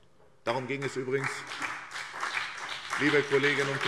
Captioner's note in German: Beifall SPD und BÜNDNIS 90/DIE GRÜNEN